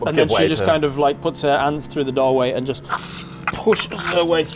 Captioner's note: squelch